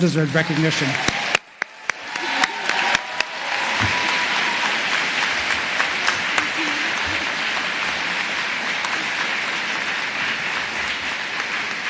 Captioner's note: applause